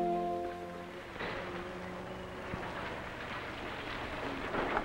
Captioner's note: engine rumbling